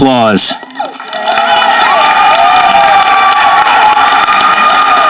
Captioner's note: audience applauding